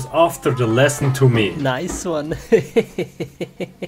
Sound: laughs

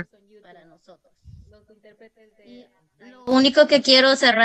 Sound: speaks Spanish

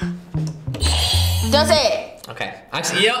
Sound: buzzer rings

